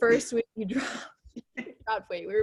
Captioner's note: laughs